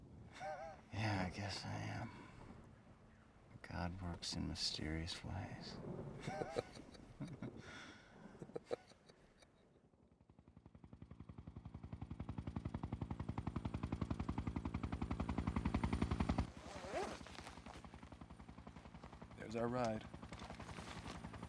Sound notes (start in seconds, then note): 6.2 both laugh; 10.1 chop-chop of helicopter blades